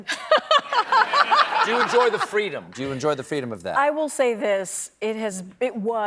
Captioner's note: laughter